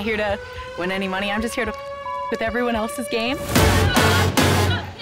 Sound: beep

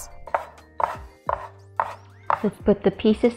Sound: cutter thudding

